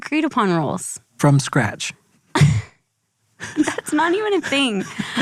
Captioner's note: laughs